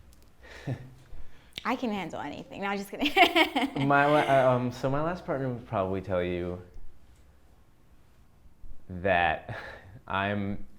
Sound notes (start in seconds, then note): 3.1 laughs